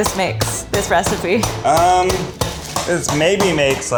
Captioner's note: metal pounding